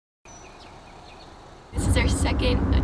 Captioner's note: birds chirping